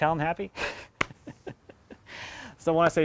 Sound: snickers

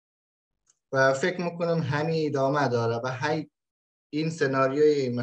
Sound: speaks in Dari

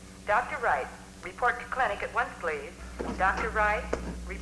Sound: woman Over PA

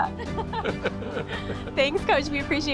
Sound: both laughing

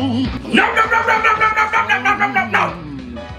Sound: repeatedly yelling NO

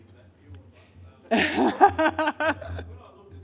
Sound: laughs

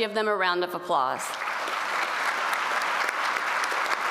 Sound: applause

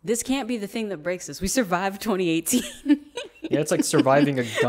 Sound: laughs

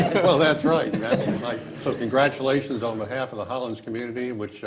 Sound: laughter

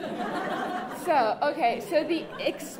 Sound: laughter

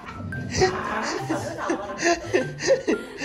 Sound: happy growling

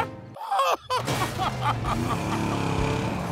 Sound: sobbing; sobbing

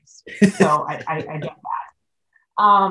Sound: laughs

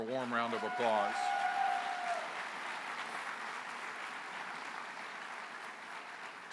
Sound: applause

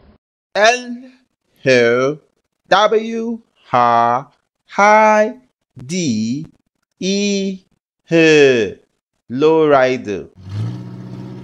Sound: low Rider Sound

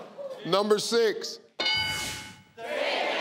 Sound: bell clanging

